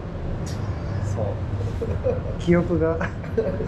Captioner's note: laughter